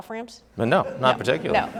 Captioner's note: audience laughing